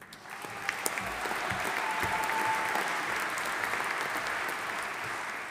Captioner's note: audience applauding